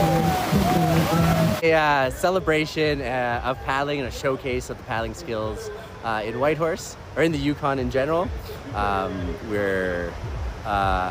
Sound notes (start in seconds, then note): 0.0 applause